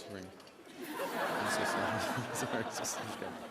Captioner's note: laughter